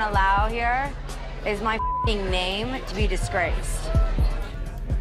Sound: beep

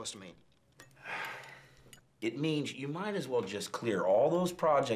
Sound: sighing

